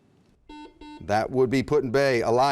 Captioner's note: beeping